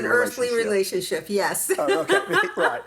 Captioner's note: laughs